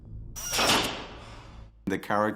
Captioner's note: metal clangs